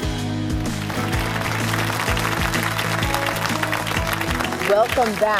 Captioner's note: applause